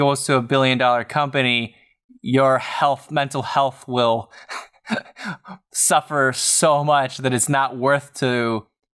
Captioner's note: chuckles